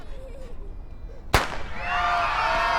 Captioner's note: gunshot